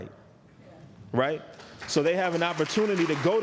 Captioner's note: applause